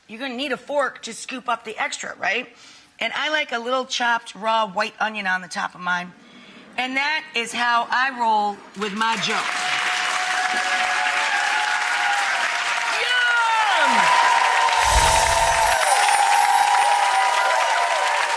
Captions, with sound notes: You're gonna need a fork to scoop up the extra, right? And I like a little chopped raw white onion on the top of mine. And that is how I roll with my Joe. (audience cheering and clapping) Yum! (audience cheering and clapping)